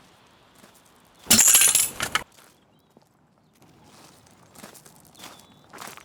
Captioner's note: objects clattering